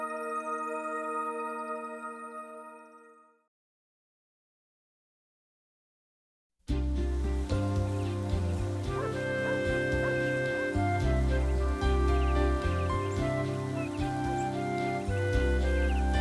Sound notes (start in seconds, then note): 6.7 light inspirational music; 6.9 dog barking